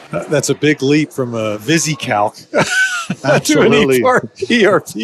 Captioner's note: laughs